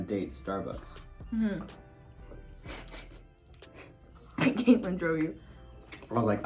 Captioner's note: both laugh